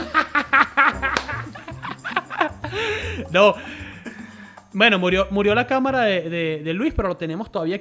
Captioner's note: applause